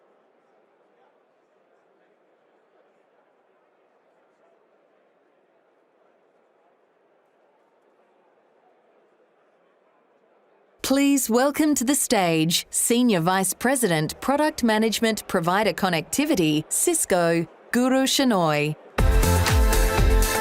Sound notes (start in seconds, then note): 1.8 silence